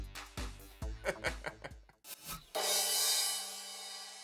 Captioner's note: laughing